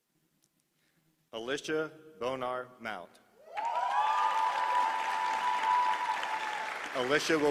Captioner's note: applause